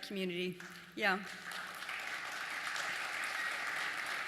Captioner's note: applause